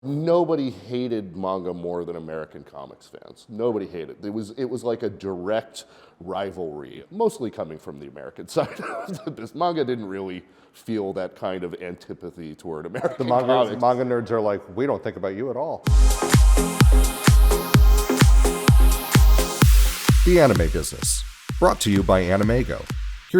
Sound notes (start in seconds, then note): 8.6 chuckles